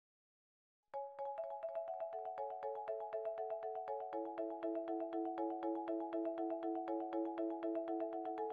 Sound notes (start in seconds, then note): 1.1 bright chime